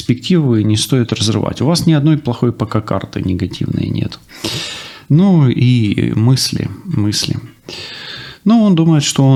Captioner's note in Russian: фыркает